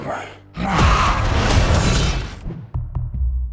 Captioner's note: yell; audio logo